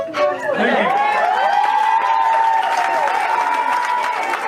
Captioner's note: cheers & applause